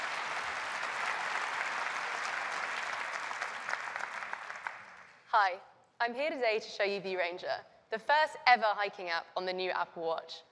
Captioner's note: applause